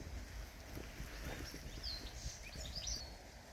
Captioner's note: birdsong